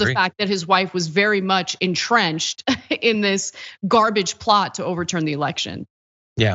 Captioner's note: laugh